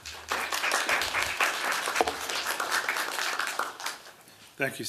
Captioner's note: applause